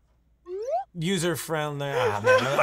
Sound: slide whistle whistles

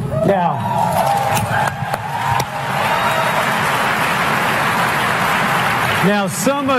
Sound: applause

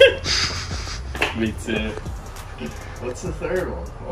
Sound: laughter

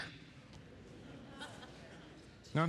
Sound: laughter

